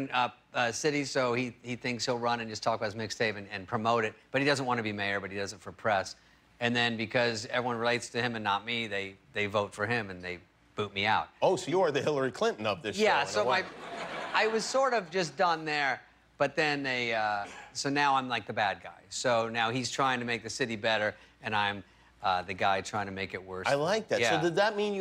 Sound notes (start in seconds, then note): 15.2 laughter